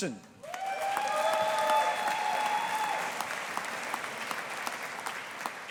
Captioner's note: audience applauding